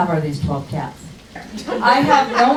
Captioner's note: crowd laughs